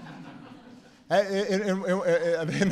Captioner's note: laughter